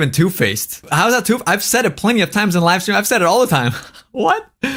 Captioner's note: laughs